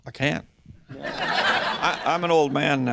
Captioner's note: chuckling